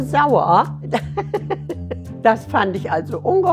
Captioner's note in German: Herzliches Lachen